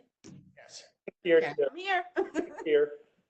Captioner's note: laughs